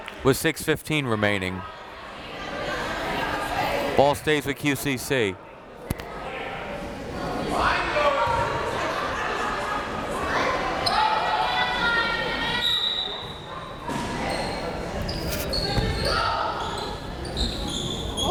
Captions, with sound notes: with 6:15 remaining. Ball stays with QCC. (crowd members shouting) (whistle tweeting) (crowd members shouting)